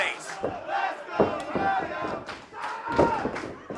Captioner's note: crowd chanting